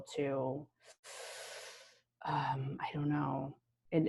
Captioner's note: inhaling deeply